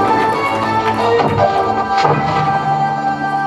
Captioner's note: portal gun fires